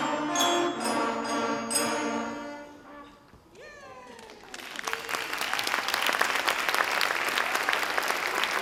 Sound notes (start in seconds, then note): 4.1 audience applauds